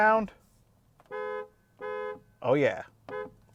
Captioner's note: car horn hooting